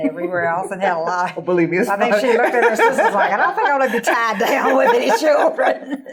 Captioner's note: laughing